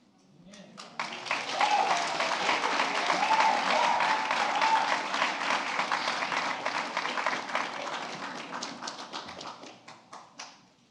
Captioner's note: applause